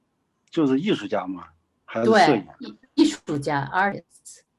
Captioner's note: speaking in foreign language